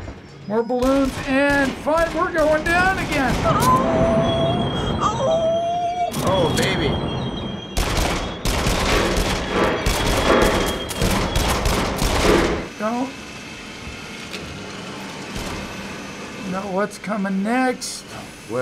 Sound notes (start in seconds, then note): 3.5 howling in fear; 7.6 firing